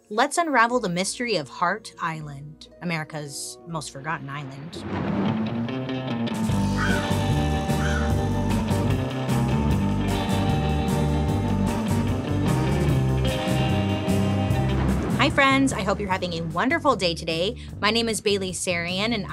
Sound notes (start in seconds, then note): 4.8 thunder booming; 4.8 playful dark music